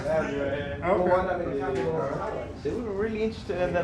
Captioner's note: people chattering